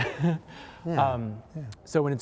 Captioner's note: laughter